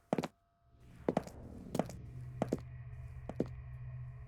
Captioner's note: footsteps thudding